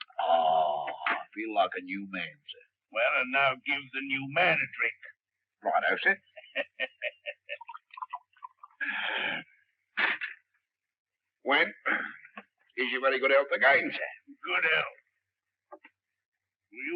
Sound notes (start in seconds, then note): 6.3 chuckles lightly